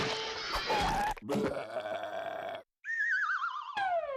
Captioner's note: burping